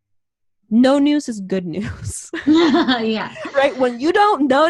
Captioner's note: laughs